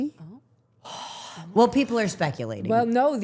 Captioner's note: Becky exhales